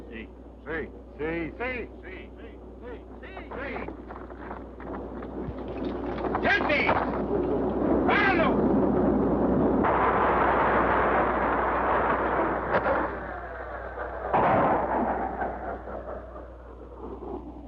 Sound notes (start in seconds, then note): 9.3 machine whirring; 13.0 machine groans